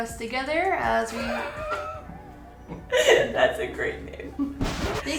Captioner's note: laughs